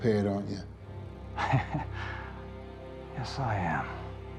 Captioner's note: Dodds laughing